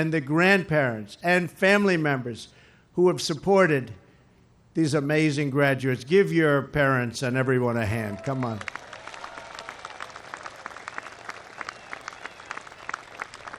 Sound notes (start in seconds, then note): 8.1 applause